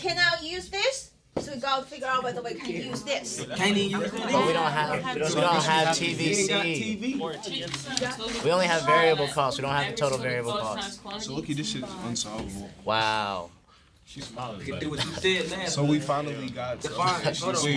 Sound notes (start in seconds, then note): 3.4 students murmur; 12.0 students murmur